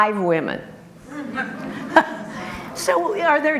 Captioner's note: group laughter